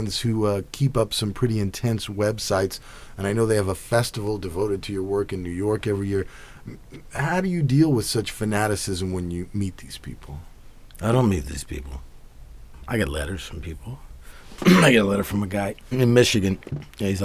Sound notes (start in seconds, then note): 14.6 clears throat